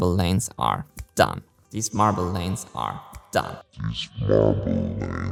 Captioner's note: echoed voice; echoed voice in slow motion